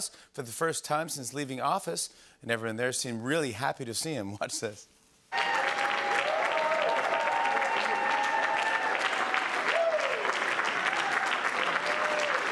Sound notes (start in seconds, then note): 5.3 cheering and applause